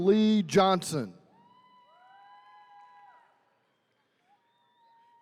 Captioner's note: attendees cheering